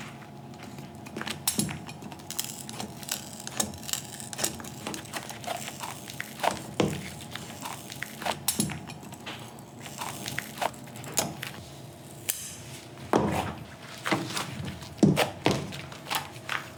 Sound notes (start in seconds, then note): 1.7 scissor crunching the candy